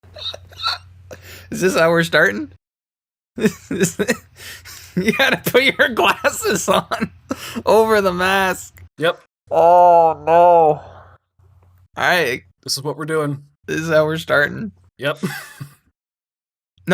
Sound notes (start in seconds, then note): 3.4 laughter